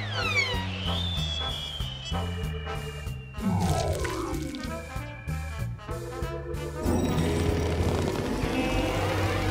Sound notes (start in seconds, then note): 4.2 electric static; 8.3 freeze noises